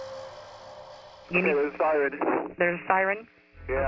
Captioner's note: on phone